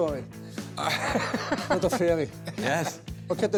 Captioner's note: laughs